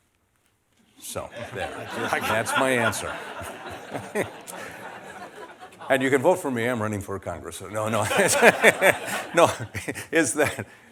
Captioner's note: laughter; more laughter